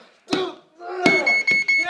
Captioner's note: man hitting ground; beeping; coach yelling excitedly